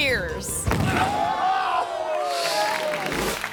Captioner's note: thuds; crowd; audience applauding